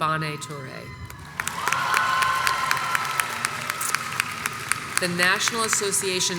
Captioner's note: crowd cheers and applauds